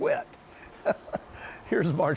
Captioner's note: laughs